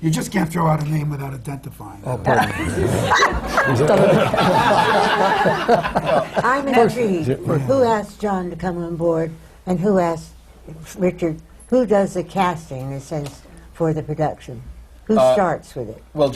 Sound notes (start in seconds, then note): 2.3 laughter